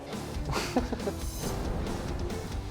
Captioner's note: laughs